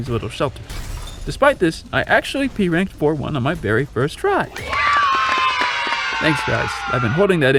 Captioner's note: applause